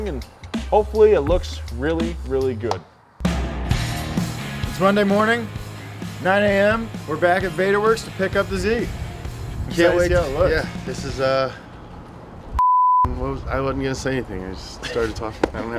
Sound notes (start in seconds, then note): 3.4 upbeat music; 12.6 beep